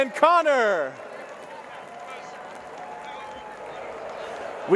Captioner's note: crowd cheering